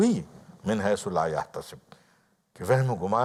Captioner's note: Arabic